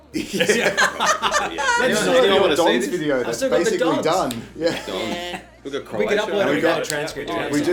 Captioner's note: all laugh